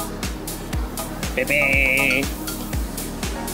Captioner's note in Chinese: 警報聲